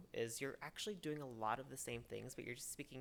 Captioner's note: none